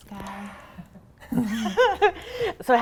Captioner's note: both laughing